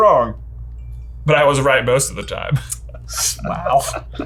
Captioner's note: laughs